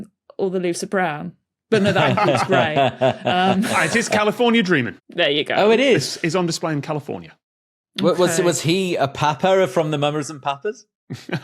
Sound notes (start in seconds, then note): 1.7 laugh; 11.2 laughs softly